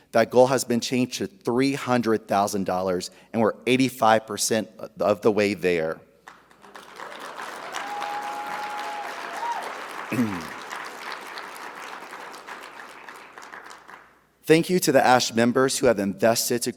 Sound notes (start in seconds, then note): 6.3 audience applauding; 6.6 audience cheering